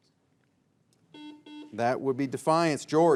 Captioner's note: buzzer beeps